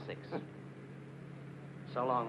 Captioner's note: Reno chuckles